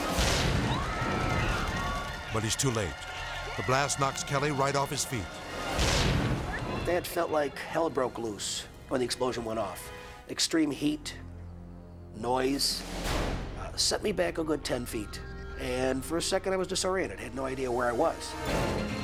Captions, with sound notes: (trick explodes) (crowd screaming) but he's too late. The blast knocks Kelly right off his feet. - That felt like hell broke loose when the explosion went off, extreme heat, noise. Set me back a good 10 feet, and for a second I was disoriented, I had no idea where I was.